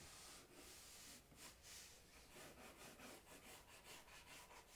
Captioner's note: pencil scratching